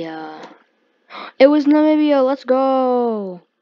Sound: gasp

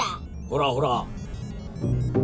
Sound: alien talking

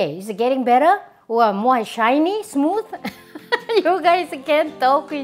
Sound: laughs

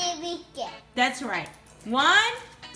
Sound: voiceover

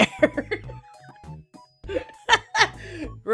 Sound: laughs

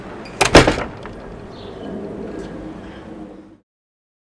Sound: door slamming

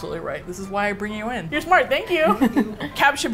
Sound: laughs

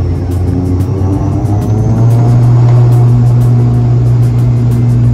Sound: aircraft engine ramping up

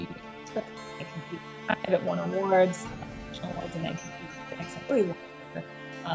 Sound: audio distortion

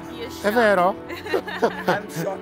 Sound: speaks Italian; laughs

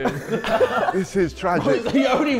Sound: Sidemen laughing

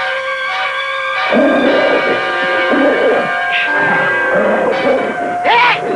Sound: wolf snarling; shouting

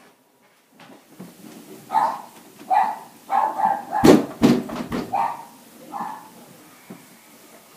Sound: banging on the door; Scooby doo barking

